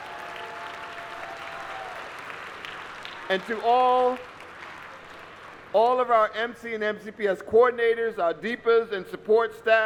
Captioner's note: applause